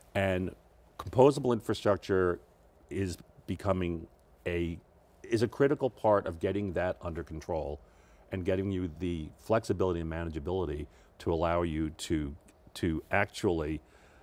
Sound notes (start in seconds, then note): none